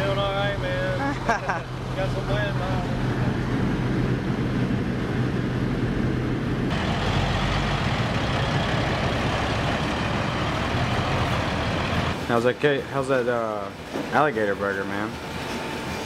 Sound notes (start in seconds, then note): 6.8 truck motor running